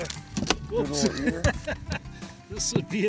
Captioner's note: fish thwacking, laughing